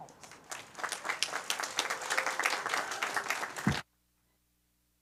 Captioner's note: applause